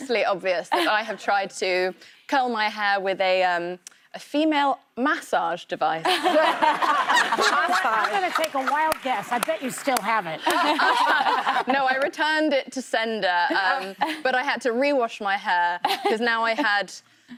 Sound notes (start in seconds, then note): 6.0 laughter